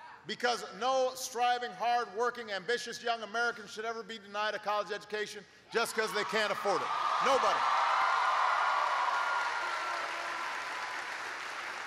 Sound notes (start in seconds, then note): 9.5 applause